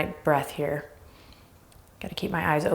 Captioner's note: breathing deeply